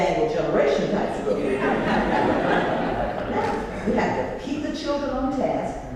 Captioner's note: laugh